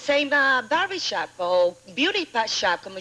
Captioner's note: none